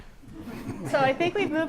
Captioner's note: audience laughter